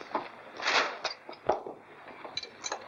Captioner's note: paper rustles